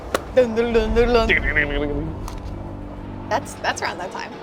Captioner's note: rambling